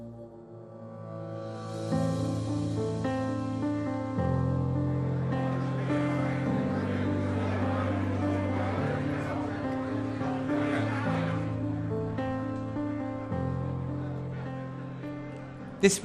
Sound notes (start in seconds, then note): 1.0 gentle music; 5.6 audience murmuring; 11.6 gentle music continues